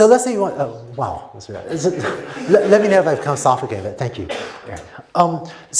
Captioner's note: laughter